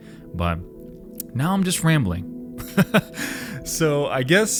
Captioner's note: laughs